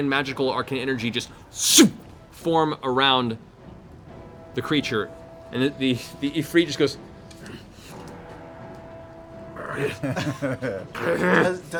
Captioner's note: grunting